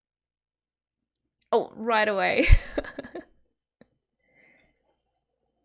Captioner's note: laughs